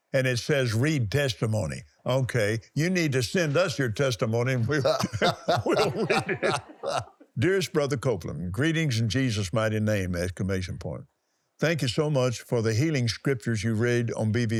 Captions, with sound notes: And it says, "Read testimony". Okay. You need to send us your testimony. (laughs) Dearest Brother Copeland, greetings in Jesus' mighty name, exclamation point. Thank you so much for the healing scriptures you read